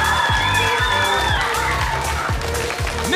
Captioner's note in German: Jubel